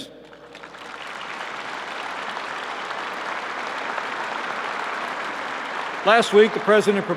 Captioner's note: applause